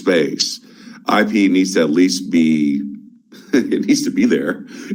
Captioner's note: chuckles